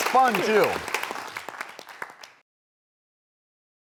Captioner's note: applause